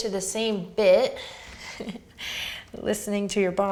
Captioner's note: laughs